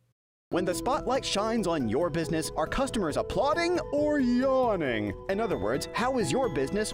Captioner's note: voiceover